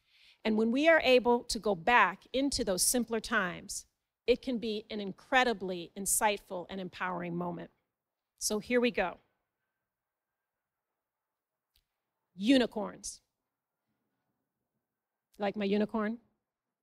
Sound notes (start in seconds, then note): none